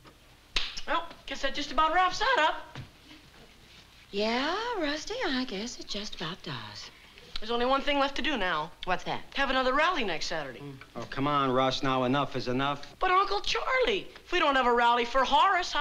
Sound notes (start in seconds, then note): none